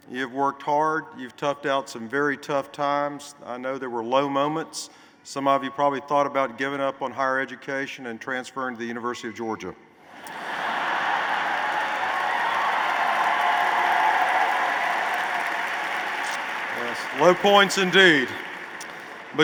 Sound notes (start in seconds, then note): 10.2 laughter; 12.9 applause